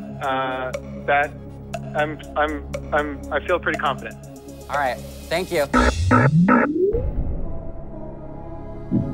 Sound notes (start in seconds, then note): 5.8 buzzer